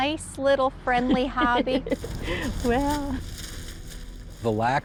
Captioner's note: laughs